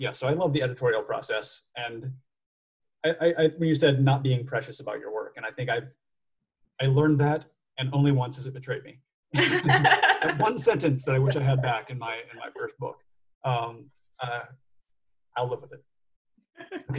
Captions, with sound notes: I love the editorial process. When you said not being precious about your work, I think I learned that, and only once has it betrayed me. -[laughs] -One sentence that I wish I had back in my first book. I’ll live with it.